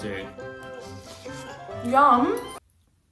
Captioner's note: slurping